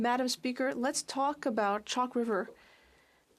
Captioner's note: speaking French